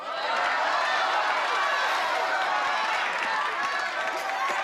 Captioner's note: audience Shouting